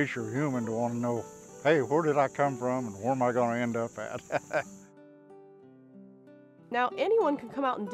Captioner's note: laughs